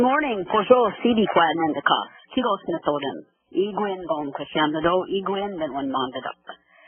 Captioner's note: speaking in Native language